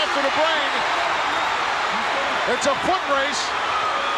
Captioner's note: audience cheers